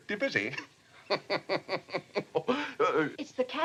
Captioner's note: chuckles